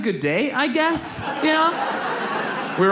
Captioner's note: audience laughs